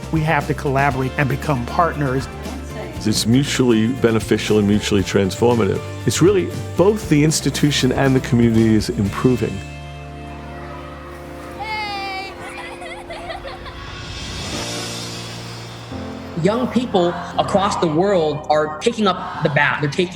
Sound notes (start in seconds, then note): 12.5 laughing